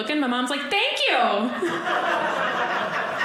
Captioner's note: audience laughing